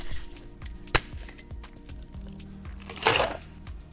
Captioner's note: liquid shaking; thuds; ice clinks